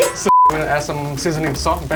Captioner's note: beep